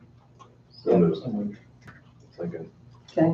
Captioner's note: mumbling